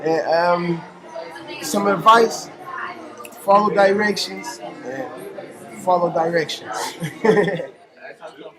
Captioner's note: laughs